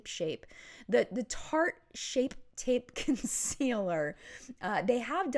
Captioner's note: giggling